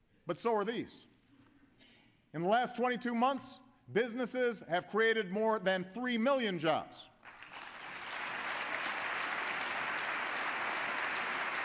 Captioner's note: applause